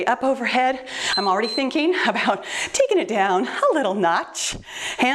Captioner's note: timer beeps